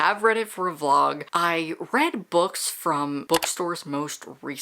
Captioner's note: mouse Click